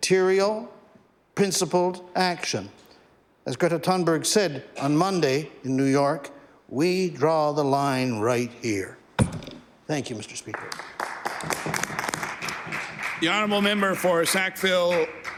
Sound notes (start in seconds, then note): 13.8 some Applause